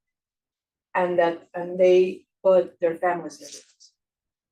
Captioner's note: faintly speaking